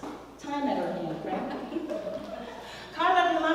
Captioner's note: laugh